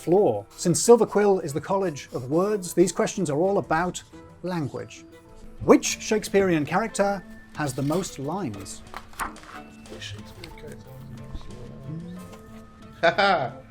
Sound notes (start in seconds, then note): 8.9 papers rustling; 13.0 laughs